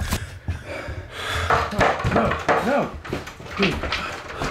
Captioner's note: loud erratic banging